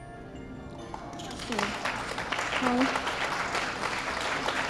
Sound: audience clapping

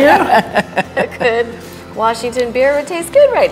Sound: all laughing

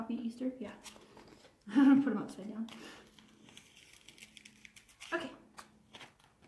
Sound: chuckles

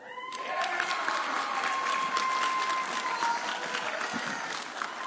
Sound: audience cheering

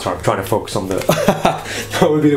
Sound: laughs loudly

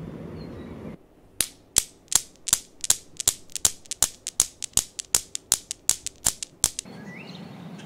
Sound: newton's Cradle in motion

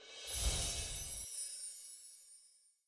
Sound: chime chiming

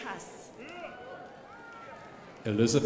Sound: crowd applauding

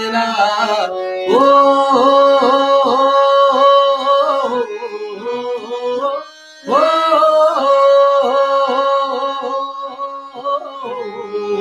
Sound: humming

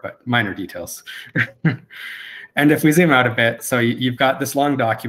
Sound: laughs

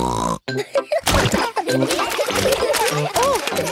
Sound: snorting; laughter

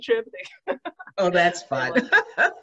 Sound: laughs

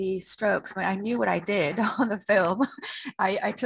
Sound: laughs

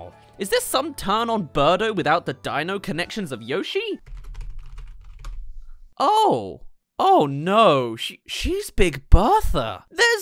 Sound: typing

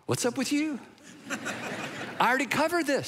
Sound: congregation laughing

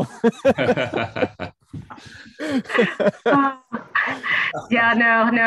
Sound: laughter

